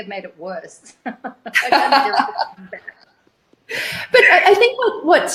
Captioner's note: both laugh